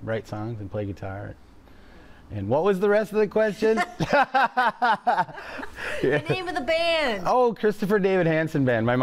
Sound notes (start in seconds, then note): 3.8 both chuckle